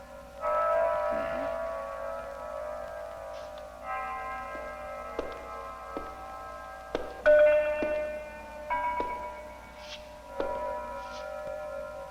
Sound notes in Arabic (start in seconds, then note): 3.4 خطوات قوية; 3.4 موسيقى هادئة